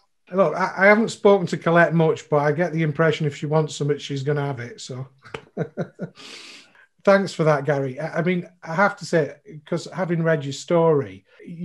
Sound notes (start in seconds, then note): 5.2 laughs